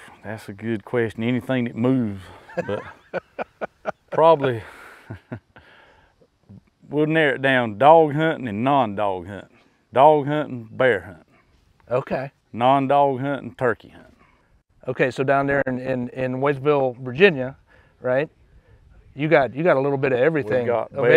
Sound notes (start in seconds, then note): 2.1 laughing; 5.9 laughs